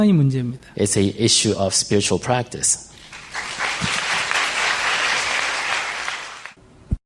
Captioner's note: audience applause